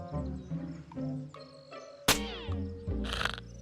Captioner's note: snaps; snores